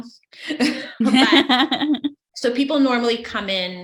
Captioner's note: laughs